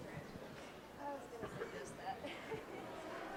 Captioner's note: audience bustling; laughs